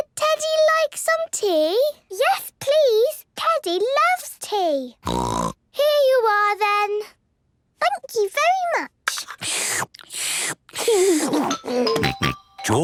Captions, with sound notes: - Would Teddy like some tea? - Yes, please! Teddy loves tea. (snort) - Here you are then! - Thank you very much! (slurping) (giggles)